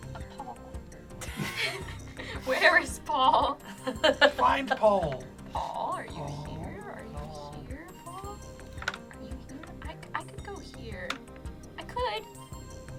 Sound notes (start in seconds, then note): 1.2 group laughs; 4.3 laughs